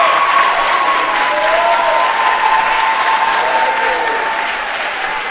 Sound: audience cheering

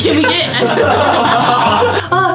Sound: everyone laughs

